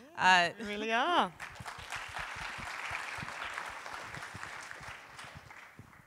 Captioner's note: audience applauding